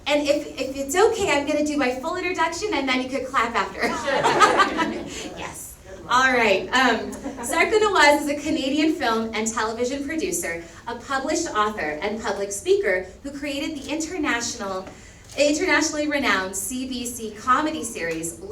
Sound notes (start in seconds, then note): 3.8 all laugh